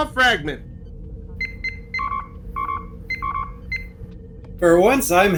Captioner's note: console beeps